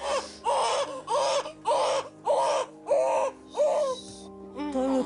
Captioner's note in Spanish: Llanto del bebé